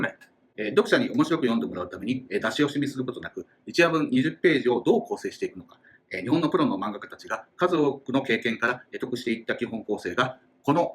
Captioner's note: speaking Japanese